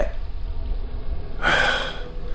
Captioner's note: sigh